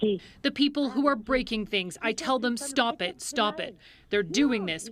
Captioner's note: speaking French